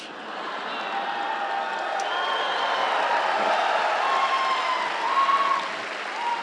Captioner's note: audience applauds; audience cheers